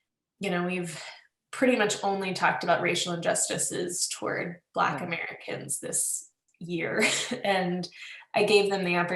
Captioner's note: laughs